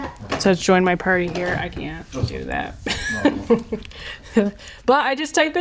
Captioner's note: laughs